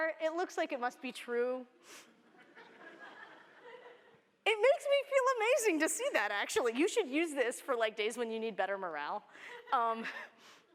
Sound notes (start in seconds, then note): 2.2 laughter